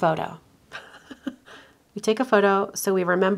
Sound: chuckles

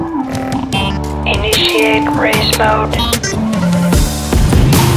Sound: Robotic voice

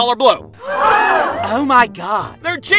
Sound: crowd gasping

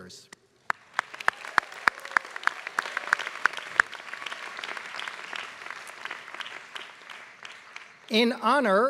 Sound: applause

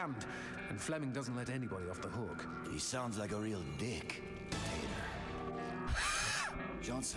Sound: laughs

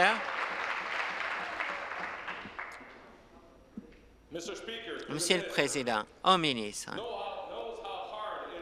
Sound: applause

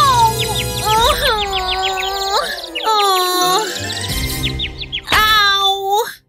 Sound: moaning in pain

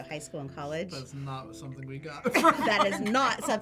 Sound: laughs

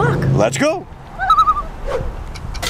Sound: loon call

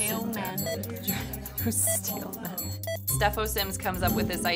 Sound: laughs

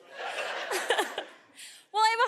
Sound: audience laughing

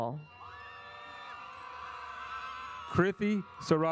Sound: audience cheers

